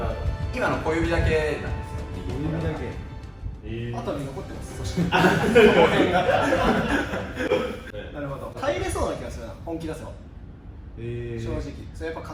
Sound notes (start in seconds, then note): 4.8 laughing